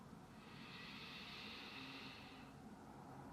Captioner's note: deep breath